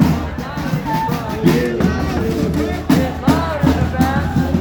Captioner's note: protesters demonstrating